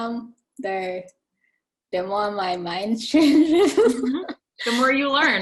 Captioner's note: chuckling